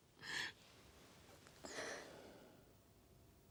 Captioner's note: sobbing